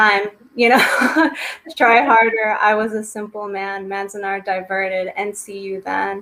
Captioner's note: laughs